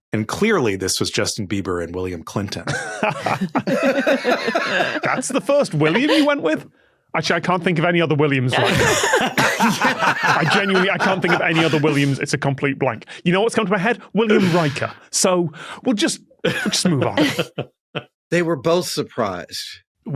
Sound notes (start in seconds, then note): 2.6 chuckles; 2.6 laughs; 4.4 wheezes; 8.5 guests laughing; 16.5 chuckle